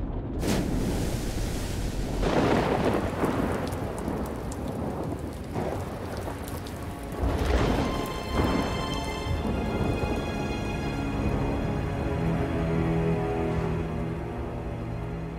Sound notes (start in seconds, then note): 0.4 water splashes; 2.1 lightning striking; 2.1 rain pattering; 6.4 ominous music